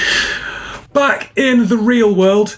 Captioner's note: man laughs